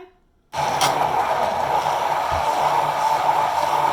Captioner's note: blending noise